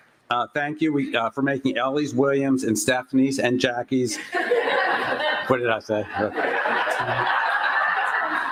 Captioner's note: laughter